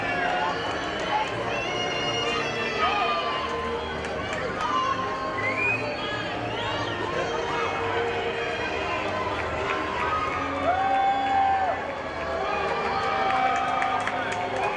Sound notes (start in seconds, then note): 10.9 audience cheers